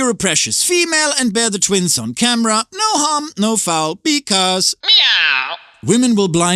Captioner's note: meow